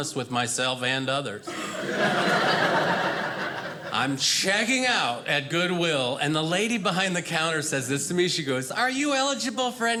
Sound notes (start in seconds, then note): 1.4 audience laughing